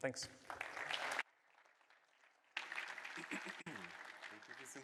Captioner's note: applause